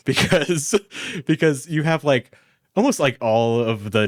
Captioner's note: laughs